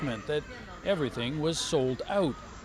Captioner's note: speaking chinese